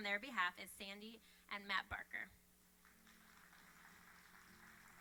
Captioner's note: applauding